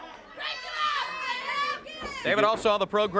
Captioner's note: crowd chatter